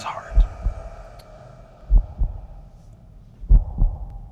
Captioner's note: loud heartbeat